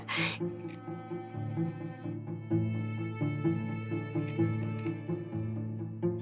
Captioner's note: chuckles; gentle solemn music; camera snapping